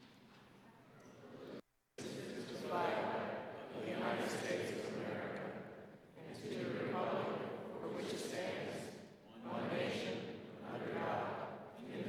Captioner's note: reciting pledge of allegiance